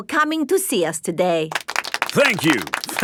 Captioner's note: applauding